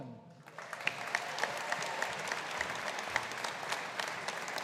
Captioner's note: audience applauding